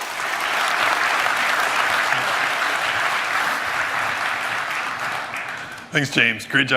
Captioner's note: applause